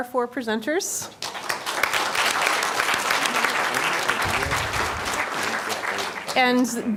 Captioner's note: applause